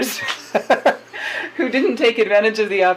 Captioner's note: both laugh